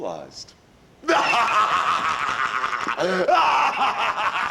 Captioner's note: Hogan laughs